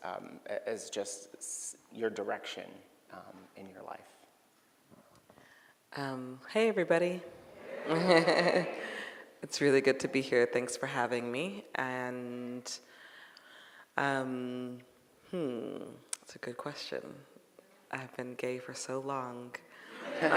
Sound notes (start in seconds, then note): 7.4 audience greeting; 7.5 laughing